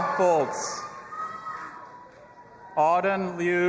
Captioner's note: audience applauding and cheering